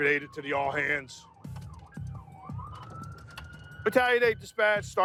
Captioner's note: sirens